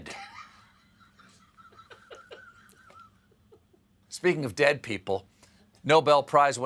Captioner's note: laughter